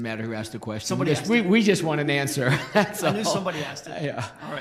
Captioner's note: laughs